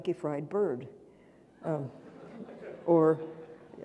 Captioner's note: audience laughing